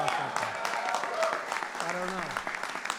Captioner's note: applause